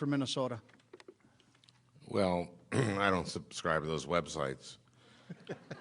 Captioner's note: clears throat